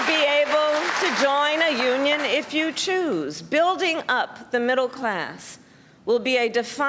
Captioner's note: cheers and applause